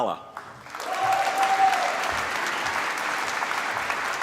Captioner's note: applause